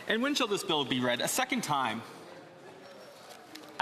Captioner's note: speaking French